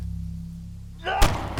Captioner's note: gun shot